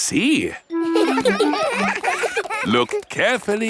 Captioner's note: children laughing; laughs